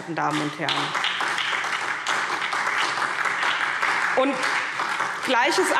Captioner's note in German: Beifall SPD